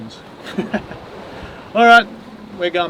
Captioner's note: both laugh